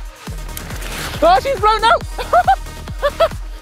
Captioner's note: laughs